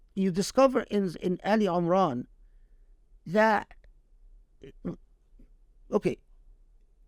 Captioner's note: speaking Arabic